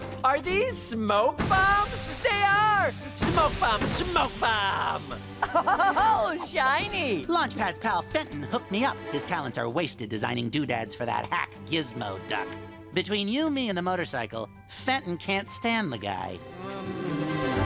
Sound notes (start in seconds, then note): 5.4 laughs